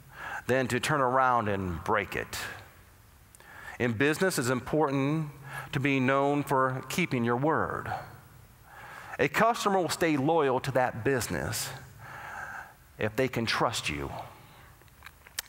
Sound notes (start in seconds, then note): none